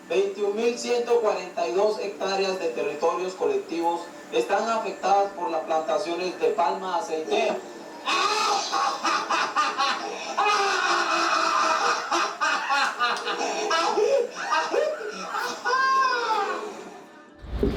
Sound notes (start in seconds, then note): 8.1 evil laughter